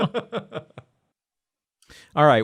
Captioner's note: laughter